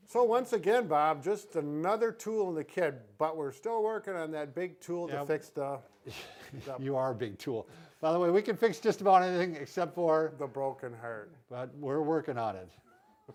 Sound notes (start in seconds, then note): 6.0 laughs